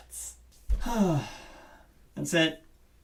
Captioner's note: exhausted exhale